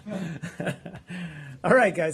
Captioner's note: laughter